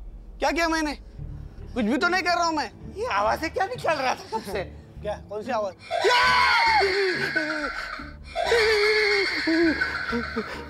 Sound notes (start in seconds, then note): 5.9 screaming; 9.2 maniacal laugh